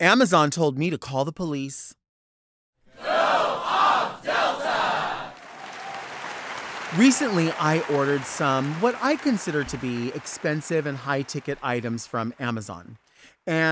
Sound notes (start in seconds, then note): 3.2 crowd; 5.5 crowd cheers